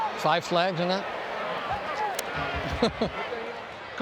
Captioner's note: laughs